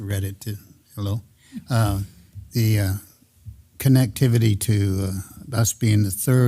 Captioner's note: laugh